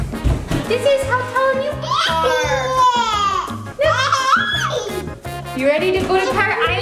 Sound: giggles

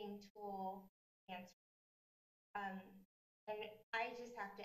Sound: audio cuts

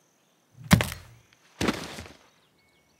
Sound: crack

